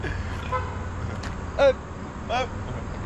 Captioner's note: laugh; car horn